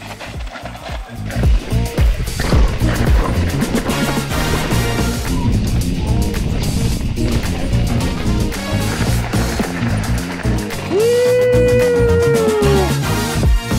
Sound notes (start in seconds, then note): 0.1 gravel crunching softly; 4.6 upbeat groove music continues; 9.2 gravel crunching softly; 10.9 cheers softly; 13.5 upbeat groove music continues